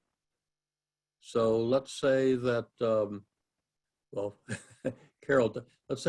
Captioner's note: laugh